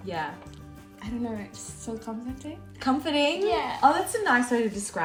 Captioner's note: speaks in foreign language